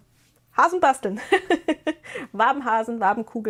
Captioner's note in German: gelächter